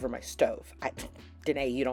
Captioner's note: scoffs and huffs in frustration